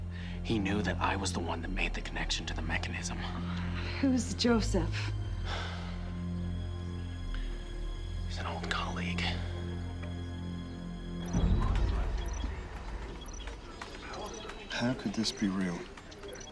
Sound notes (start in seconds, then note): 5.4 sighs; 11.2 trilling